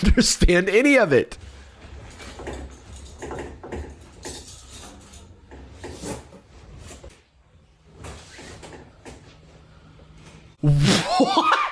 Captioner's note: shuffling and clinking noises; laughing